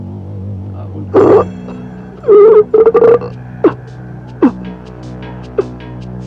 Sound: groans

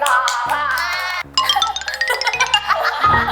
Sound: giggles

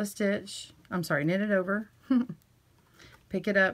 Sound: giggles

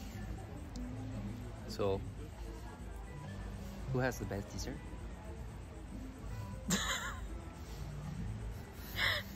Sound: laughing

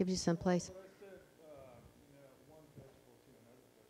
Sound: murmurs

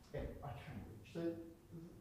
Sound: chatter

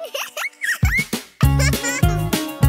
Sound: giggles

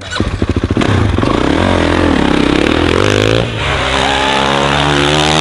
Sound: bike engine roaring

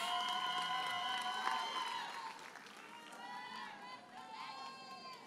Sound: audience cheers and applauds

